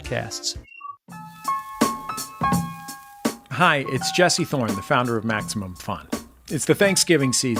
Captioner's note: none